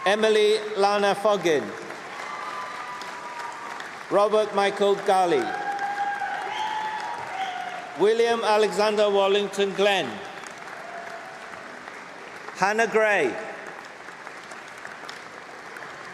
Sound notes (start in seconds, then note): 6.4 cheering; 11.3 applause